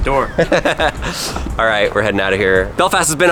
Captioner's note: laughs